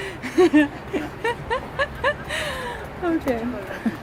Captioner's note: laughs